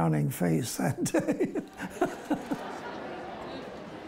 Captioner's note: laughing